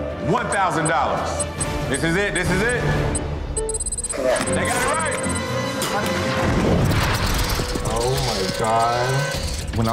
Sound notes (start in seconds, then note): 2.4 digital beeping; 5.9 dramatic music; 7.0 scene whooshing; 8.8 rats squealing